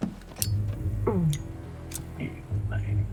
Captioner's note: flicks lighter